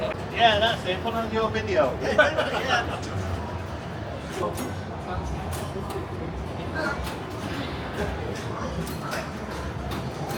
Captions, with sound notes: (Laughter) Yeah, that's it. Put it on your video. (Laughter) (Laughter)